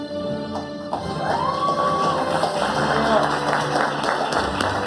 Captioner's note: audience applauding